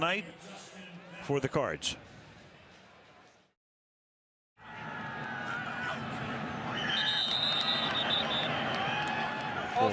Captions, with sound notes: on a big night for the Cards. [whistle]